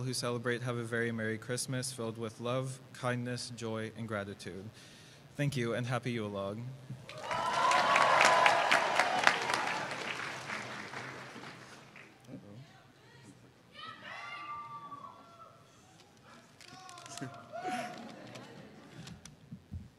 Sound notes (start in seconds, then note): 7.0 cheers and applause